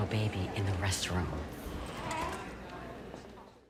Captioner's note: baby cooing